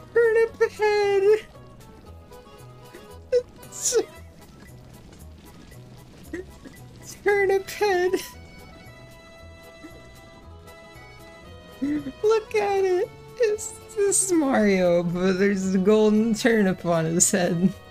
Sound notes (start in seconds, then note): 6.2 still laughing; 8.5 giggle